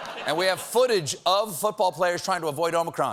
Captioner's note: laughter